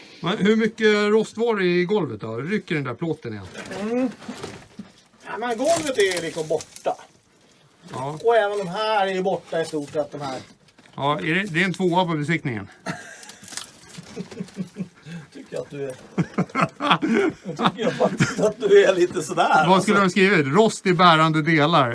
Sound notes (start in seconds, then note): 12.8 chuckles